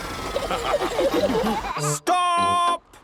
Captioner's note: all laughing